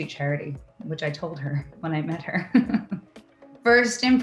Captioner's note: laughs